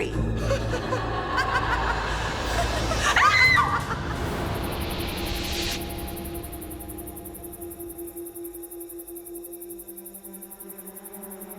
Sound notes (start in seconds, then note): 0.0 woman laughs; 3.0 Linda screams; 4.5 insects chirping; 8.6 gentle music